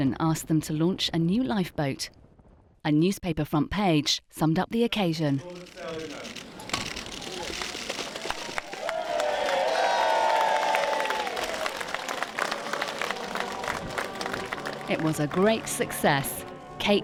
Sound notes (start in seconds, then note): 7.0 crowd applauding; 8.0 crowd cheering; 13.4 people singing lively